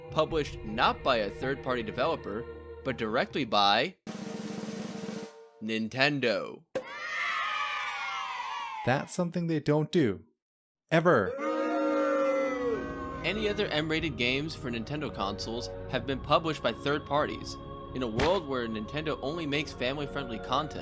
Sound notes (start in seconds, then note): 4.0 drumroll; 6.8 cheering; 11.3 booing